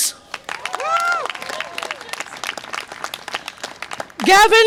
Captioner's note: audience applause and cheer